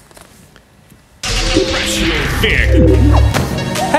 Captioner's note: transition Sound